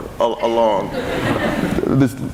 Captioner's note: laughing